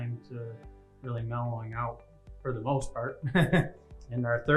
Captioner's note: laughs